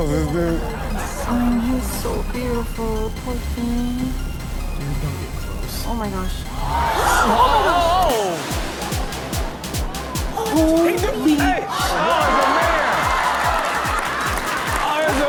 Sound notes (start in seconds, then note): 0.0 crowd laughs; 6.6 crowd gasps; 13.4 crowd cheers